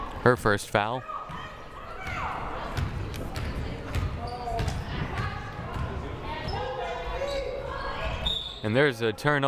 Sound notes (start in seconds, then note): 3.5 crowd murmuring; 8.2 whistle blaring